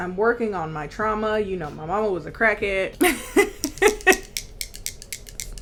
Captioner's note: laughing